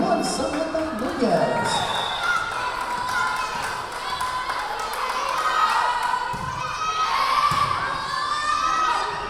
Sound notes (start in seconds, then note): 1.7 whistle blowing; 5.6 yelling